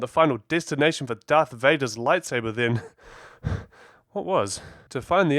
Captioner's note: heavy breathing